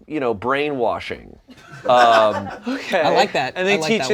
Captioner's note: laughter